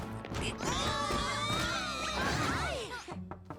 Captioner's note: crashing; shouts